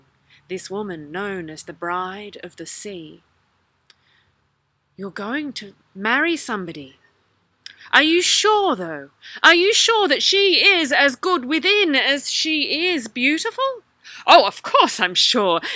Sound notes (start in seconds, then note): 4.6 Bride of the Sea voice; 13.7 Ali voice